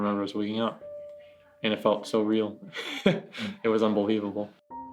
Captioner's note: laughs